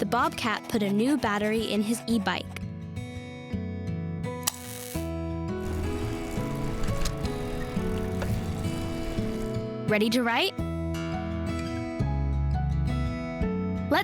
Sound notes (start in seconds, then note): 5.6 gentle music; 5.7 battery clicks; 12.1 gentle music